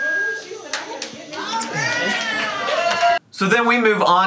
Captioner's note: guests cheering